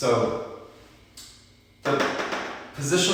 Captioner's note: whiteboard tapping